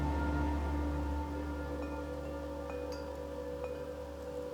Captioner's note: ringing softly